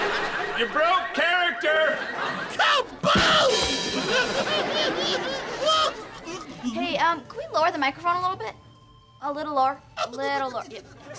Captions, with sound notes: You broke character! Ka-boom! [laughing] Hey, um, can we lower the microphone a little bit? A little lower. A little lower, yeah.